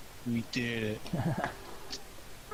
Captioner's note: laughing